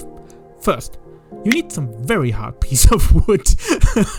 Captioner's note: starts laughing again